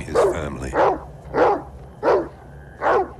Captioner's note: barking